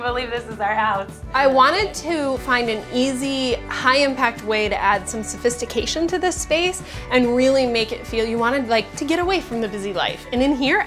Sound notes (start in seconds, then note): none